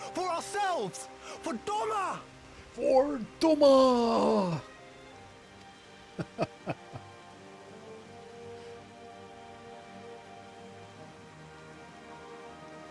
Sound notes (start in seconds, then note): 6.1 laughing; 8.9 dramatic music